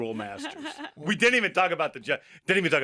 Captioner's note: hosts laughing